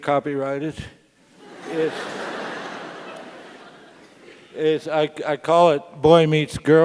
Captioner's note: laugh